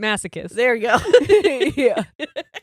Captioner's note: both giggles